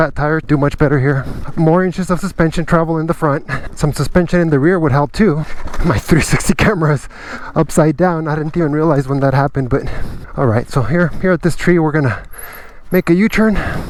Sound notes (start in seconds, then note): 6.0 snicker